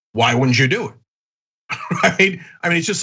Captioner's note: laugh